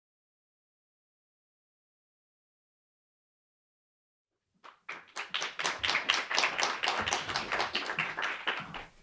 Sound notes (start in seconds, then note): 4.6 audience clapping